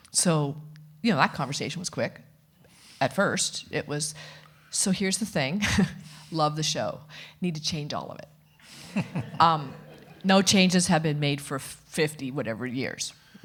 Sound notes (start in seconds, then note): 8.8 audience laughing